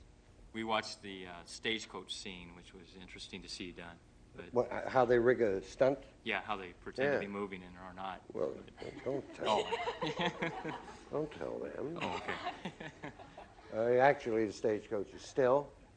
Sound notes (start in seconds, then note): 8.5 laughs